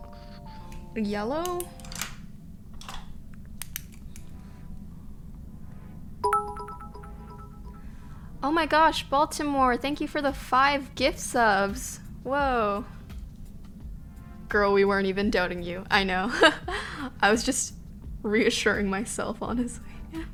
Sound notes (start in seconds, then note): 6.2 notification tingling; 16.2 she laughs